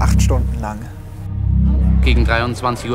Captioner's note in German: Dröhnen